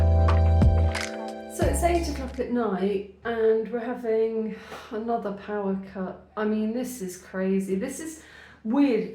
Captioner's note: sigh